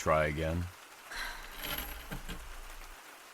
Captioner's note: sighs